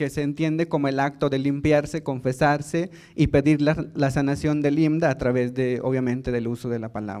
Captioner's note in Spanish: habla en lengua indígena